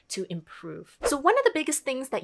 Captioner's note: air whooshing